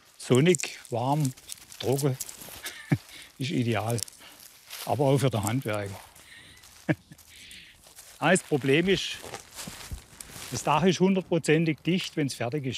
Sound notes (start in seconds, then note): 2.5 laughs